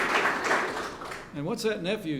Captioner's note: applause